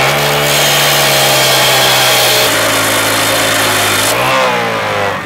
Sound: motor and metal screaming

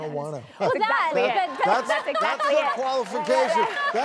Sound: laughter

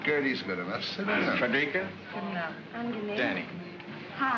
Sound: women greet in German

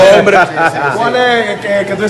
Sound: laugh

